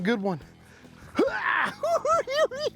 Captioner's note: grunt; cackling